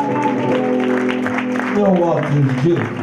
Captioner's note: audience applause